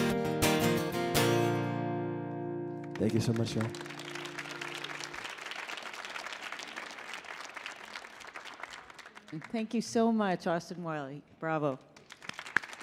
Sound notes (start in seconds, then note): 5.3 audience applauding